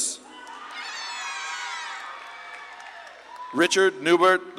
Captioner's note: audience claps and cheers